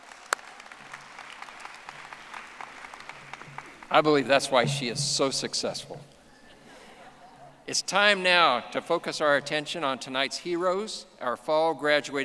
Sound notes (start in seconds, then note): 6.3 audience laughing